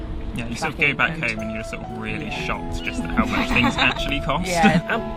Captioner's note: laughing